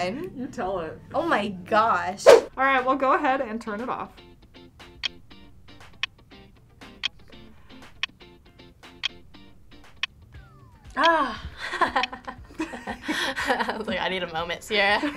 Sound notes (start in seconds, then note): 4.8 clock ticking; 11.2 laughs